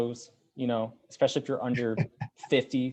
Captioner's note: laughing